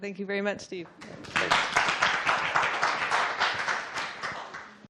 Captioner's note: applause